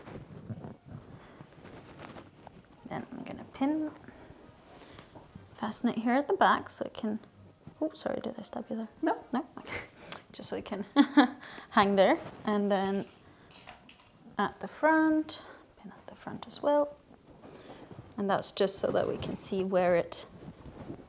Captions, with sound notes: And then I'm going to pin this. Fasten it here at the back so I can, oops, sorry, did I stab you there? - No. - No? Okay, just so we can (laughs) hang there. And then at the front, pin at the front as well. And that's just so that we can see where it needs to be.